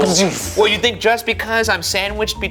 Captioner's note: imitating punch pounding